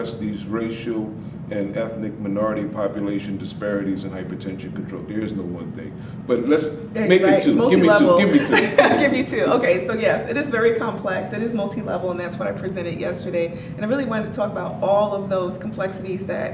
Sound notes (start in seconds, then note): 7.4 laughing